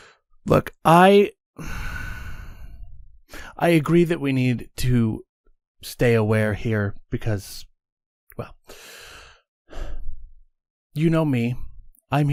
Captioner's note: deep breath; sighs